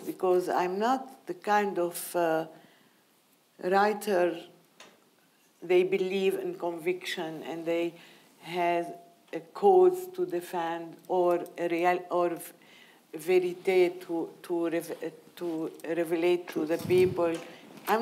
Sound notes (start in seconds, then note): 11.5 speaking in foreign language